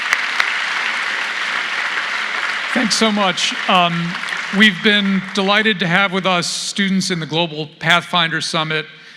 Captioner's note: applause